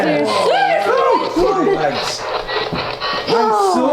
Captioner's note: screams